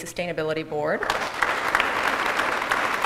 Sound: applause

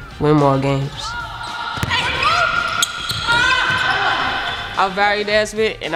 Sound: players shouting

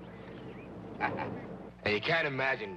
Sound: Roy laughing

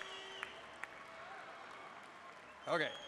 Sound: cheers and applause

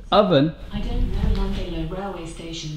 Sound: automated Voice

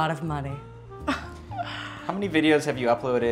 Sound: fake modest laughter

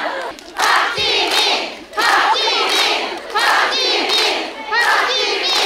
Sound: ARMY applauding for Jimin who worked so hard

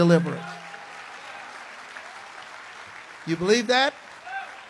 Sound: congregation applauds

